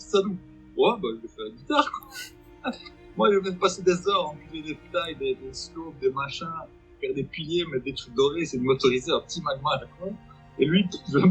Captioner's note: laughs